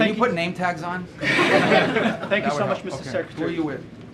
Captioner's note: laughter